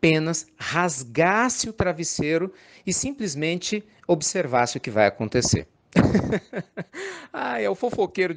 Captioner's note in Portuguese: Risos